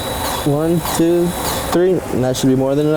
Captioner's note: grease gun whirring